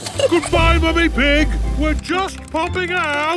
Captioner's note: giggles